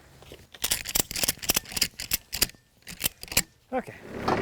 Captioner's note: handle clicking